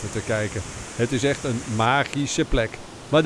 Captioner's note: voiceover